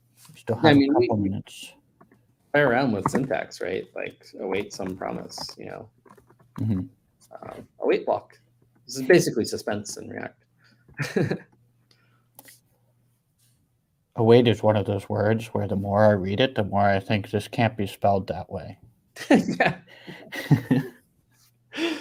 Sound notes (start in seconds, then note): 10.9 chuckles; 19.2 laughs